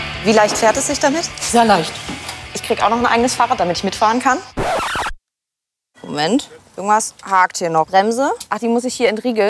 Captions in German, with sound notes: Wie leicht fährt es sich? - Sehr leicht. Ich krieg ein eigenes Fahrrad. (Tonband quietscht.) Moment. Etwas hackt hier noch. Die Bremse muss ich entriegeln?